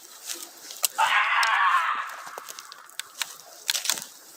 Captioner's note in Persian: صدای جیغ